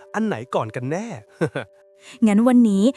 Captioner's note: chuckles